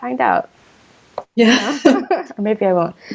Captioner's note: both laughing